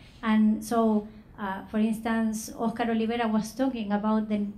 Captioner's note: speaking foreign language